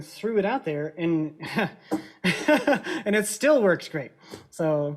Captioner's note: laughs